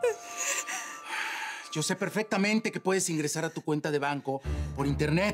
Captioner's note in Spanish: Sollozos